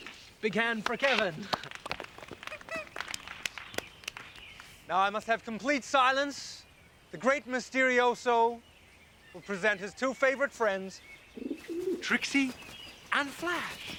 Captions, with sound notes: - Big hand for Kevin. (applauding lightly) Now I must have complete silence, the great Mysterioso will present his two favorite friends, Trixie and Flash.